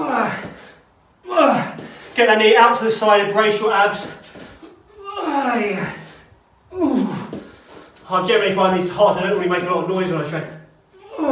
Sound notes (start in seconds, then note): 5.1 groans; 11.0 grunts